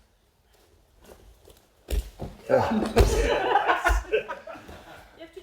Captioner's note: kaeshi-waza noises